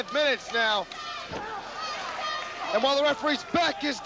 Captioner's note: crowd cheering